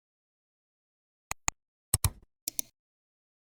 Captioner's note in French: 3 différents clics